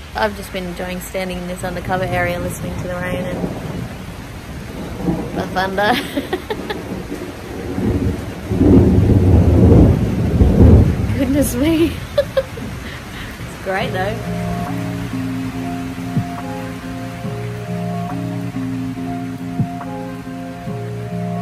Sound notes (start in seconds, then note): 3.8 loud peal of thunder; 5.8 laughs; 7.0 thunder continues to roll loudly; 11.2 giggles